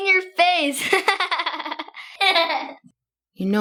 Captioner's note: Esther laughing